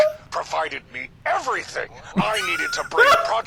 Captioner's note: laughs